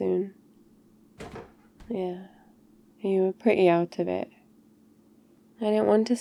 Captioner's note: closes fridge